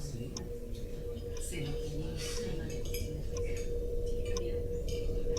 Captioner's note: chatter